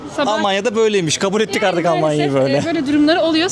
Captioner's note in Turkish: kahkaha